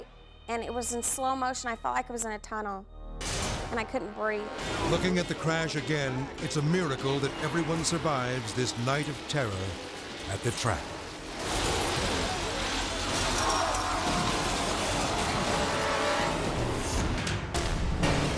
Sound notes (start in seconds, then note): 10.9 metal clanging; 16.5 dramatic music